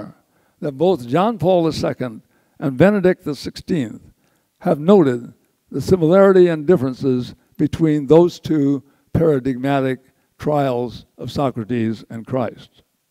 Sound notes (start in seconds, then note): none